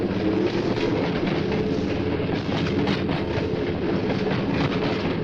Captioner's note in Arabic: خشخشة القطار